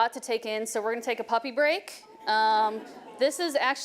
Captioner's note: audience murmuring happily